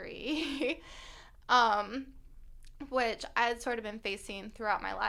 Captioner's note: laughter